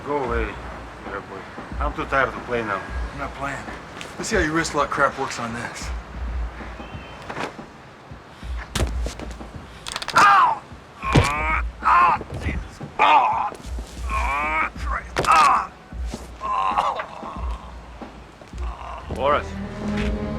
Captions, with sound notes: - Go away, bad boy. I'm too tired to play now. - I'm not playing. Let's see how your wrist lock crap works on this. (bone cracks) Ow! Ah, Jesus! Ah, Christ! (bone cracks) (man groaning) - Boris.